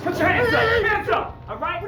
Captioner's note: yelling